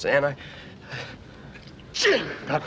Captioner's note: sneezes